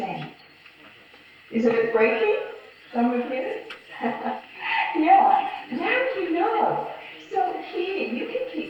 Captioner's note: laughs